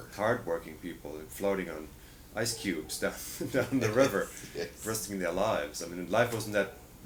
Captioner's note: laughter